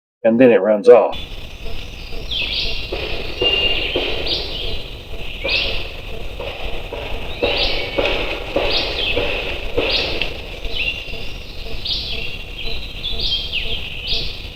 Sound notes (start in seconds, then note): 2.4 birds chirping; 3.9 banging; 10.8 birds chirping